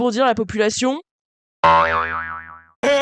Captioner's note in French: boinggg